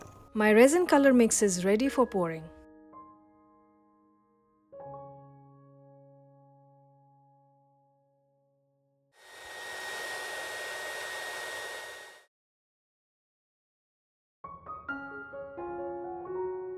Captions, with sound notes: My resin colour mix is ready for pouring. [heat gun whirring]